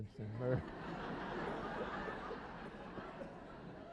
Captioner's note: laughter